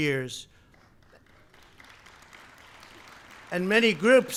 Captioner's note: applause